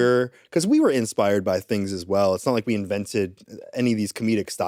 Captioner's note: none